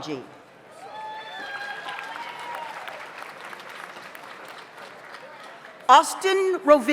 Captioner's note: audience cheers; audience applauds